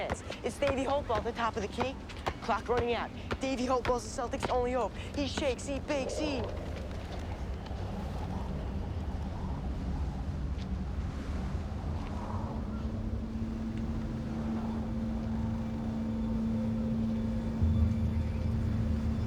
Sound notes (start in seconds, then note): 6.6 wind blows